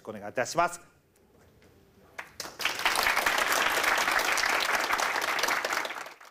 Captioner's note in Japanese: 拍手